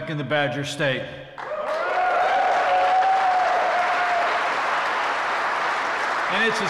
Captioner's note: applause